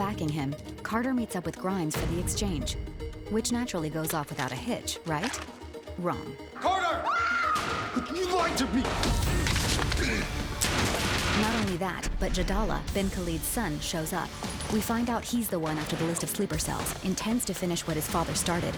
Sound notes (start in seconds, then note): 6.7 screaming; 10.5 gunshots